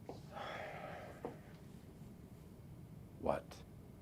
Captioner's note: sighs